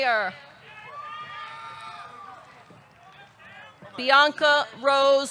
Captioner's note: audience cheering